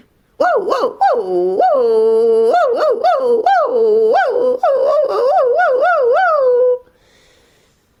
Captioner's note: dog barks